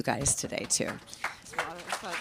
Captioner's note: applause